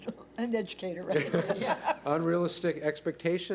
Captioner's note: laughs